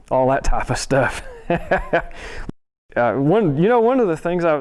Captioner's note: laughs